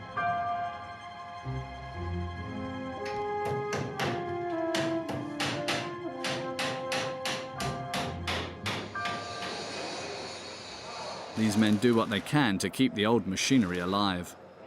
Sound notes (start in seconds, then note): 2.9 hammering sound